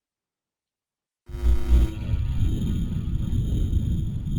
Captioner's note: buzzing